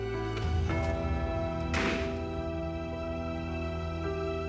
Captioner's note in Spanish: Portazo